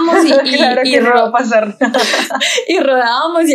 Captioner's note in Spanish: ríen